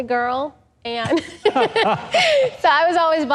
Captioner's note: laughs